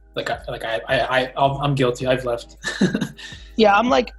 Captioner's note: laughs